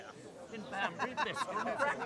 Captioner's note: laughter